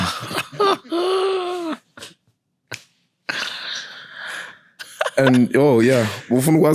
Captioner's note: laughing